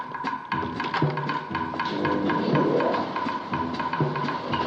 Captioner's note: elevator motor running